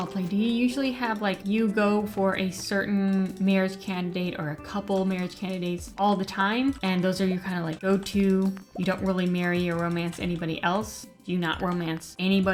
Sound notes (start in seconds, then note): none